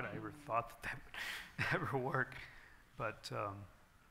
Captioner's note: laughs